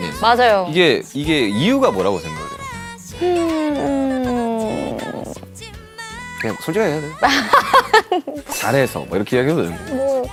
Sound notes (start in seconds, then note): 7.3 hahaha!